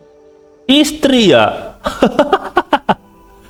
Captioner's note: laughs